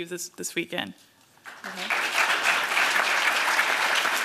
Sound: applause

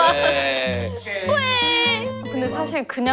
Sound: crying

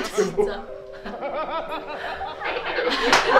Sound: hahahaha

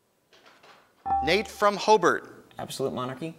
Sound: ding

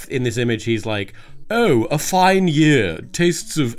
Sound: none

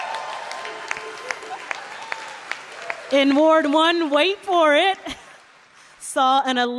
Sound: applause

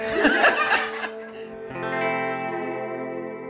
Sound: laughs

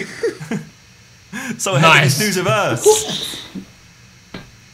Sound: students murmur

